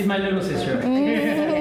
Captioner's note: laughs